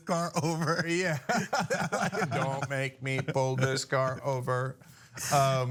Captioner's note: laugh